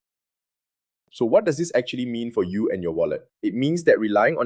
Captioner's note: thoughtful